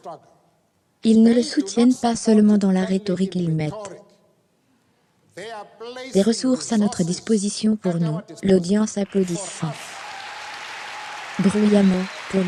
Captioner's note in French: l'audience applaudissant bruyamment